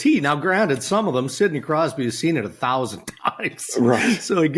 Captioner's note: chuckles